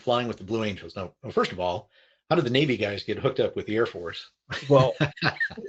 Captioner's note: laughs